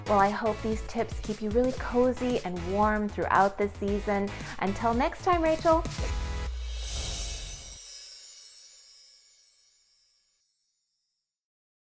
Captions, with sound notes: Well, I hope these tips keep you really cozy and warm throughout the season. Until next time, Rachael! (windchimes ring)